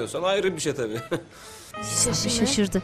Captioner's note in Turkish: Gülme sesi